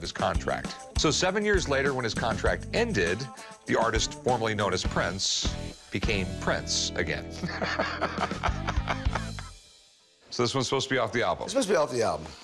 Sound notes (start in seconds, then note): 7.4 laughs